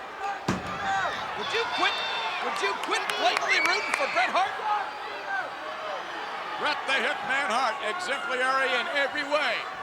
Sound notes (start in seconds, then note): 5.0 crowd yelling